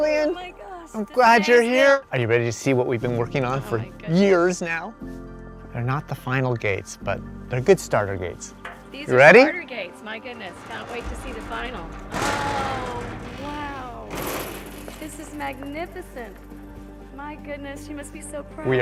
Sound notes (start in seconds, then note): 11.8 gates opening